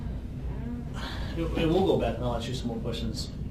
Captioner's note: sighs